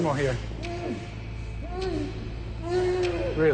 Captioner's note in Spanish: Gritos ahogados